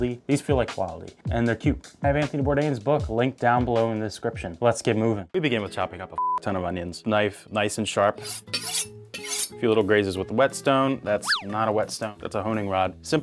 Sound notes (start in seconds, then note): 9.1 knife chinks